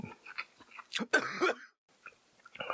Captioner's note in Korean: 커헉🤧